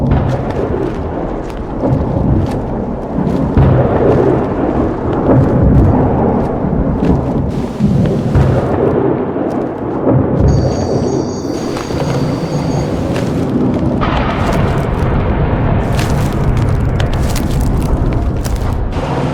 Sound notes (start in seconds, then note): 0.2 thunder clapping; 7.8 electricity crackling; 14.1 thunder clapping